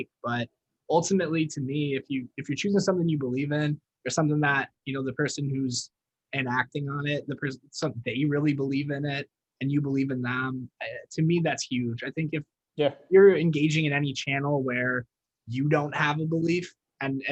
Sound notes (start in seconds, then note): none